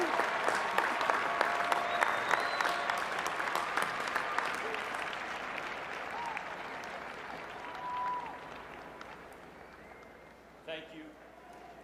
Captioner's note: cheers and applause